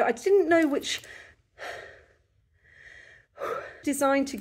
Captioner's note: deep breathing